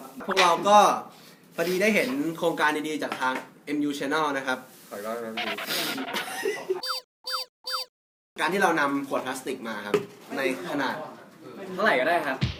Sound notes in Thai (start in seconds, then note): 5.7 สูดน้ำมูก; 5.7 เสียงหัวเราะ